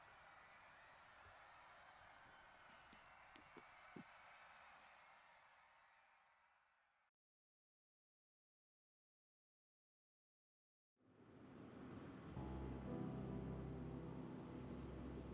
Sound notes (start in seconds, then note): 2.9 footsteps fall; 11.2 gentle piano music